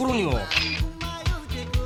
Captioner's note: camera shutter sound